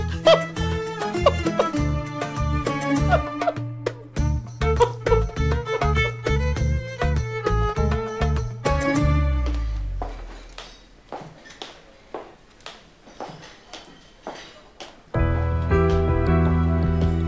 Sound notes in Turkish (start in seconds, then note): 0.2 Gülme sesi; 9.3 Ayak sesleri; 9.4 Çatal bıçak sesleri